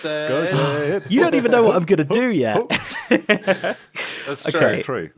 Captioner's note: laughs